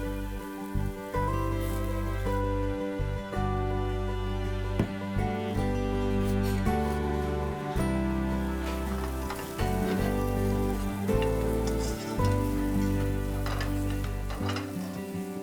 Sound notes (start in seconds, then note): 8.2 food sizzling; 8.7 gentle music